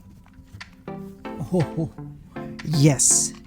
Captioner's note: chuckles